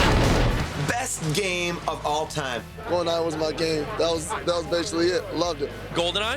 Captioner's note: gunfire